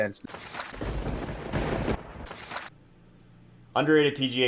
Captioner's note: lightning strikes